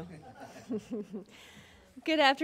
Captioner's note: laughing